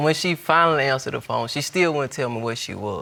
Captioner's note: none